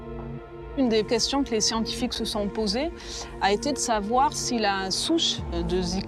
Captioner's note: speaks in foreign language